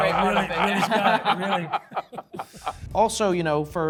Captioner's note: judges laugh